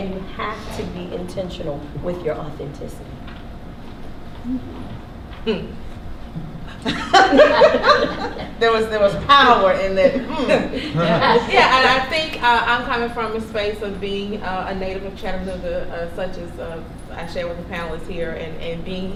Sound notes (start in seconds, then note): 6.7 laughs